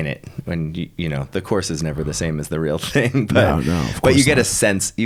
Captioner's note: laughing